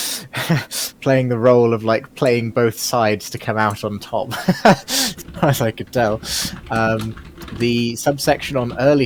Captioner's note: laughing